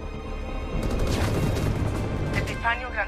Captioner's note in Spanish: Disparos